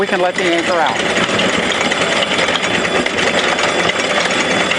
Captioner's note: anchor unreeling